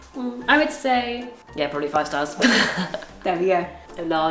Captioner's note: laughs